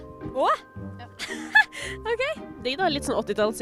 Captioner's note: laughs